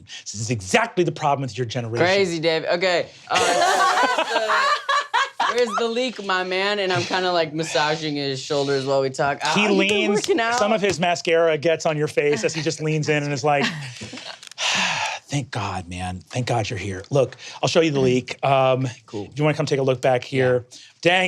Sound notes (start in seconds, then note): 3.4 players laughing; 14.5 sighs